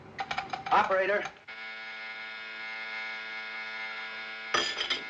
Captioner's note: line Buzzing